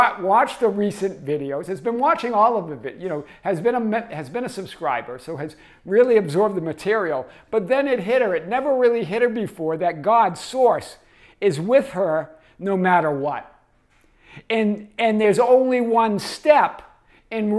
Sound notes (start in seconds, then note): none